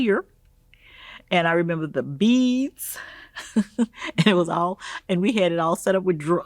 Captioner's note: laughing